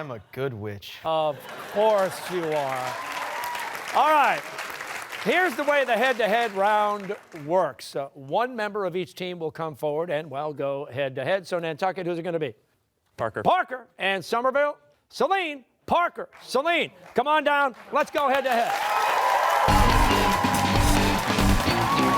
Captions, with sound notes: >> Because I'm a good witch. >> Of course you are. (cheers and applause) All right, here's the way the head-to-head round works. One member of each team will come forward and, well, go head to head. So, Nantucket, who's it going to be? >> Parker. Parker. And Somerville? Celine. Parker, Celine, come on down. Let's go head to head. (cheers and applause)